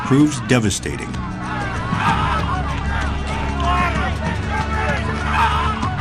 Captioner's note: soldiers shouting in French